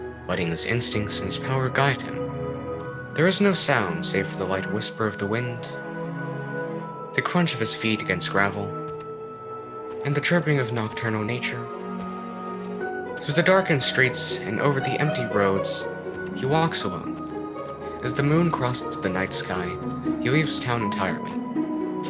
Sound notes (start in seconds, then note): 5.9 the light whisper of the wind; 8.8 the crunch of his feet against gravel